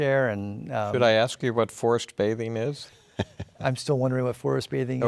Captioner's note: laughs